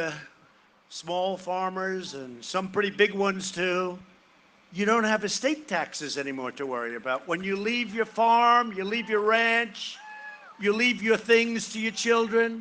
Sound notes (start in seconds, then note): 2.2 cheering and applause